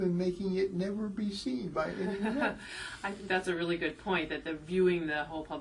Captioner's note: laugh